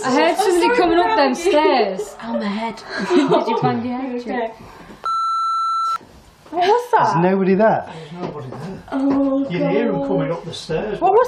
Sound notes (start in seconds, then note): 2.8 laughing; 5.0 beep